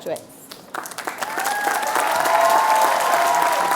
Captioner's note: applause